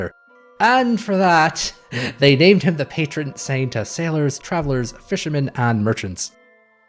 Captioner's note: guffaws